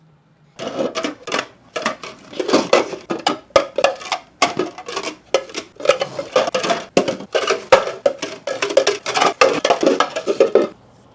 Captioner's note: more clattering